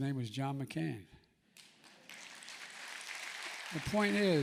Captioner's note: applause